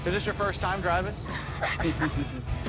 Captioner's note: laughter